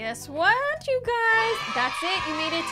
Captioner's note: cheering